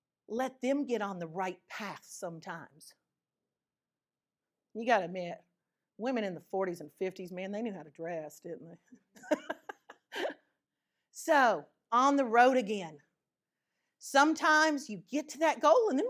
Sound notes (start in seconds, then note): 9.3 laughs